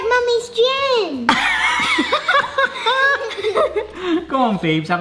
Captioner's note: laughing